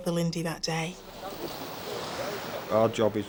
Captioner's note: water whooshing